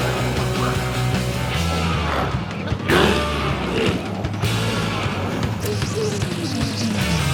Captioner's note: energetic music continues; glowzies growling